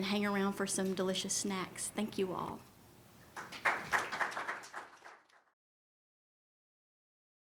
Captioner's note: applause